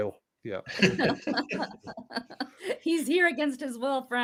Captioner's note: laugh